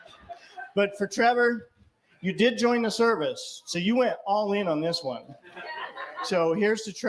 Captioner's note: laughter